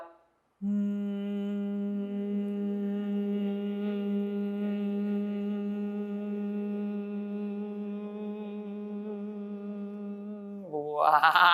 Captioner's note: humming